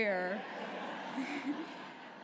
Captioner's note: laughter